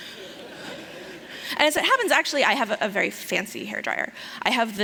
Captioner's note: laughter